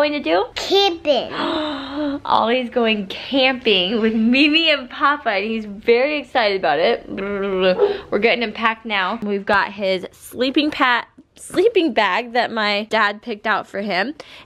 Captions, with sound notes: What are you going to do? - Camping. - (gasps) Oh, he's going camping with Mimi and Papa. He's very excited about it. We're getting him packed now. We've got his sleeping bag that my dad picked out for him